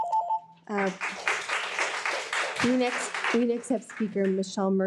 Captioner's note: participants applauding